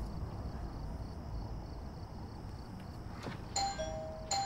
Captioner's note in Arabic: رنين جرس الباب